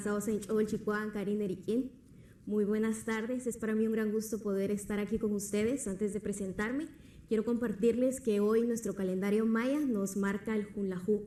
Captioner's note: speaking Spanish